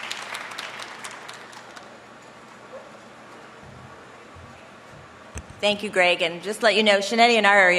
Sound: applause

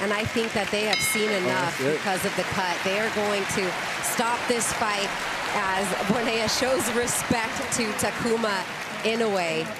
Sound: bell ring

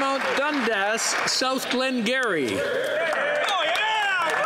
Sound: some Applause

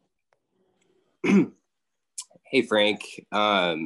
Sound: clears throat

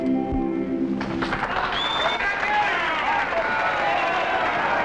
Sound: clapping, cheering

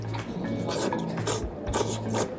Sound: slurps

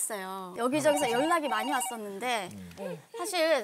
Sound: endless calls

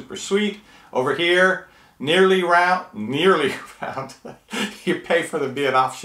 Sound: laughs

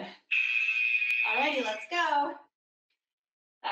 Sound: alarm blares

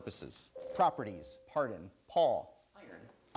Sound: ding

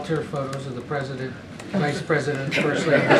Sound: laughter

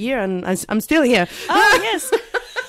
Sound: laughs

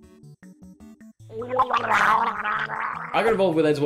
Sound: drowning gargles

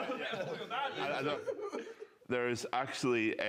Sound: laughter

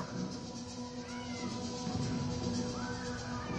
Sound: shouting

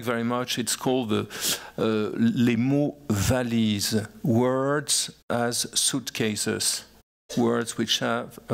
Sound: french

